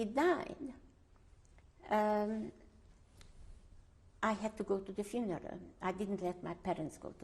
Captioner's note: pauses for 3 seconds